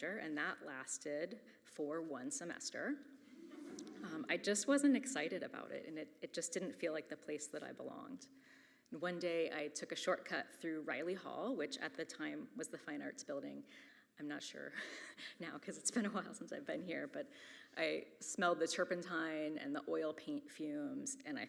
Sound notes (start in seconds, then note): 3.3 audience chuckles; 14.9 chuckles